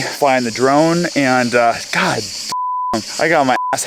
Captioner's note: beep